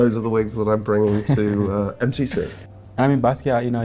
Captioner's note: Pope laughs